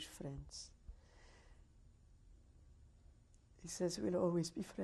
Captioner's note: pauses for 3 seconds